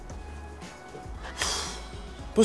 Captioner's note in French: soupir